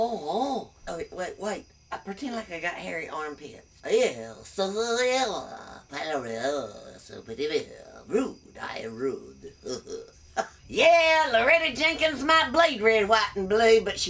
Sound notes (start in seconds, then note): 0.0 french jibberish; 4.2 french jibberish; 9.4 laughs